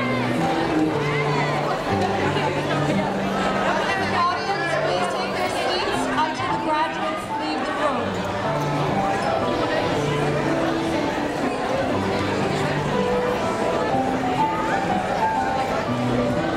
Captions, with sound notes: (audience buzzing) Audience, please take your seats until the graduates leave the room.